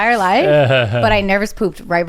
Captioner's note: laughs